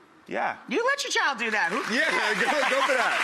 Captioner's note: audience applause